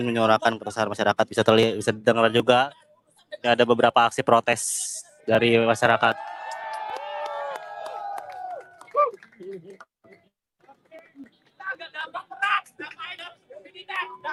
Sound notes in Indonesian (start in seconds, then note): 5.8 bersorak